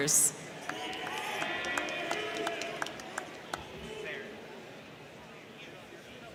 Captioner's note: crowd cheering; crowd clapping